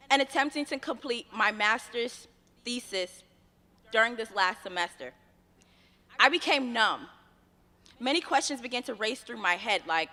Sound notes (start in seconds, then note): none